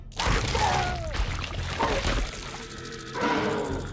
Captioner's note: blood splattering; gastric juices splashing; monster growling